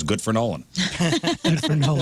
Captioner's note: laughing